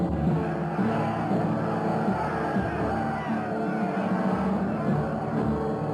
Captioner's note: dramatic music; men shouting